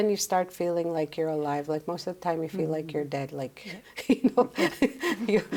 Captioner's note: laughs